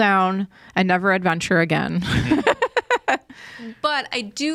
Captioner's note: laughs